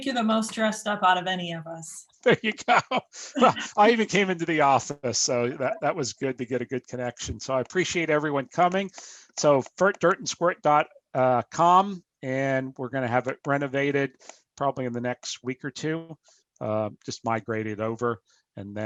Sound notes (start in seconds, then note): 2.2 laughing